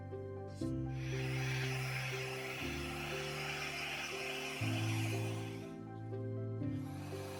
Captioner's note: upbeat music; hair dryer whirring